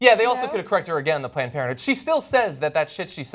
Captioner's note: talks like tom brokaw